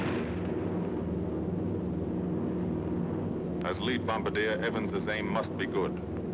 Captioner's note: explosion